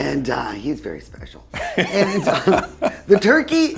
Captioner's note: both laugh